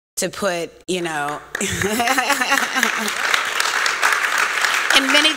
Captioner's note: applause